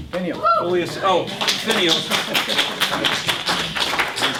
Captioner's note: applause from audience